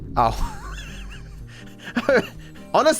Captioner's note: laughs